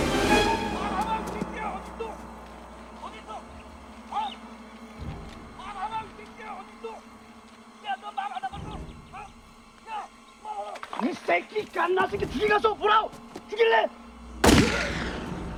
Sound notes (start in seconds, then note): 0.3 yelling in Korean; 7.7 yelling Continues; 10.5 yelling in Korean; 14.4 shot Echoes